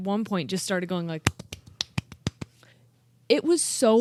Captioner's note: clapping